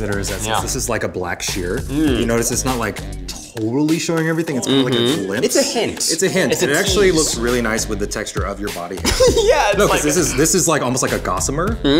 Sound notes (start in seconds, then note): 9.0 laughs